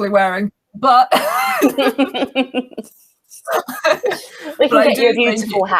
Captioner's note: laugh